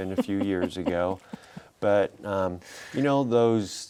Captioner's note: laughing